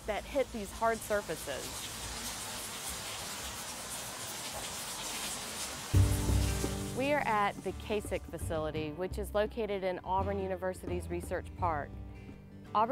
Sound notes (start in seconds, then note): 2.1 rain splatters